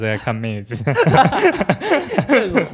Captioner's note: laughs